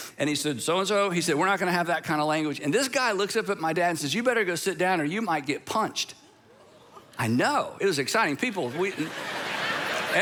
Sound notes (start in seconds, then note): 6.1 congregation gasping; 8.5 congregation laughing